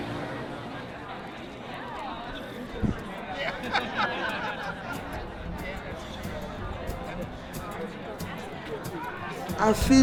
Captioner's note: crowd talking